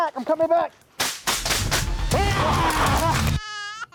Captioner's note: gun firing; upbeat music; baby crying